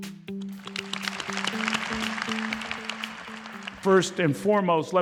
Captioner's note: applause